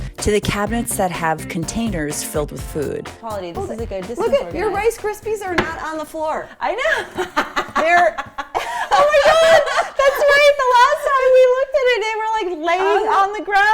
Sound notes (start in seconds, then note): 7.8 laughs